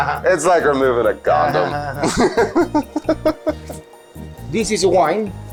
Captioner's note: laughs